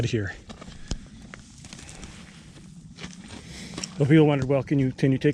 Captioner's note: gravel crunching; footsteps thumping